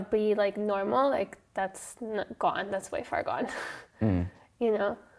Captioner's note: laughs